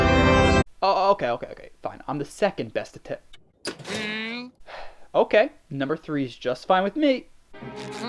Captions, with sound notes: Okay okay fine, I’m the second best det- *sighs* Okay, number 3’s just fine for me-